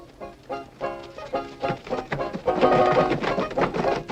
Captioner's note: playing banjo; horses trotting